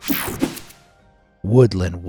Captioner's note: air whooshing